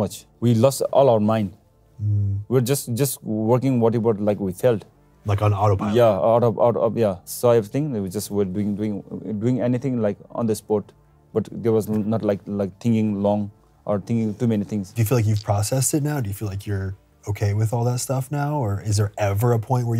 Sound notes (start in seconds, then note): none